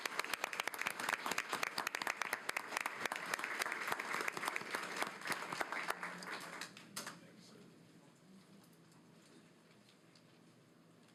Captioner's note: applause